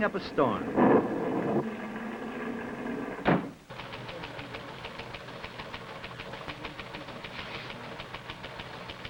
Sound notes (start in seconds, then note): 2.6 storm sounds; 3.2 door slams